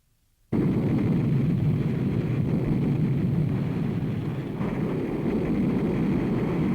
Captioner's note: plane engine roars